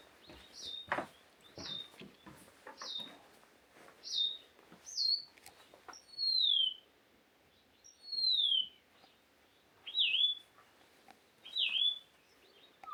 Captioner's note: birds chirping